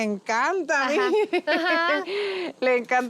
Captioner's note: laughter